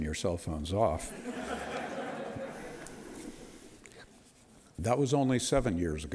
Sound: audience laughter

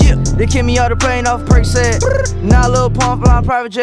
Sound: brr

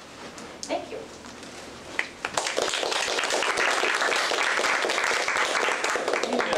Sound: applause

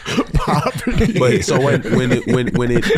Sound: laughs

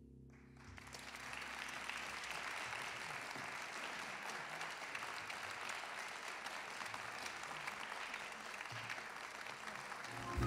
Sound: audience applause

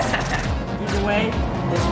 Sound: laughter

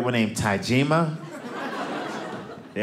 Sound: audience laughing

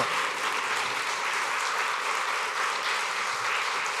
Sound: applause

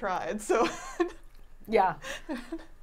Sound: laughing

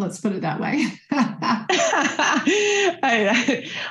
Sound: laugh

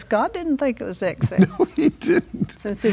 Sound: laughs

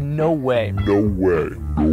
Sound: deeper voice; even deeper voice

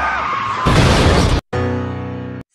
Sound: explosion

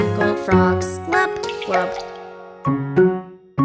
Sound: water splashing; quirky piano music

